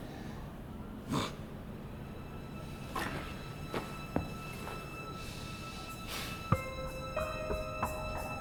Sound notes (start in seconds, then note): 1.4 Charlie huffs; 1.4 suspenseful music